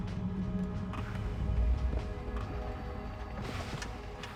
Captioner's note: heavy breathing